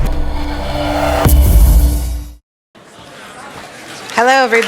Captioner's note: background Conversation